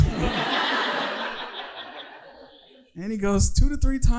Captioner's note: audience laughing